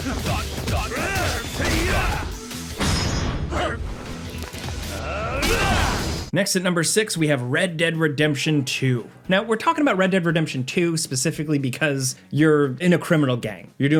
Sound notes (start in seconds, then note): 5.0 Kazuma grunting